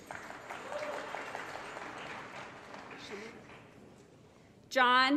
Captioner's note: applause